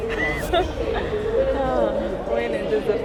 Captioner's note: laughing